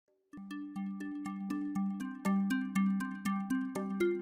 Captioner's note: gently chiming bells